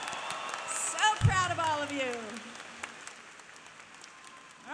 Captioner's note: applause